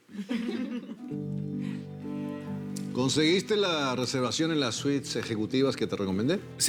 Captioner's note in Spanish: Risas